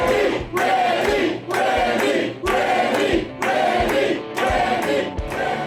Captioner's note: crowd; crowd cheering